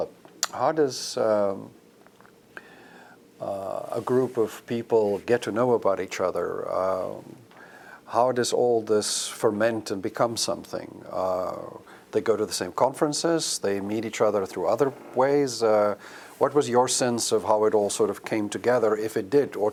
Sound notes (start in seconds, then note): none